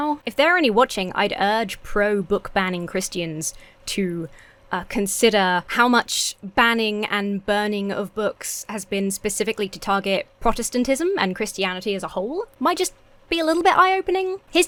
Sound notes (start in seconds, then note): none